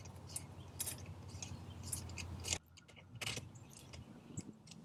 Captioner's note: metal ratcheting